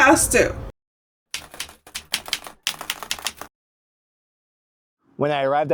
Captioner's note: keyboard keys clicking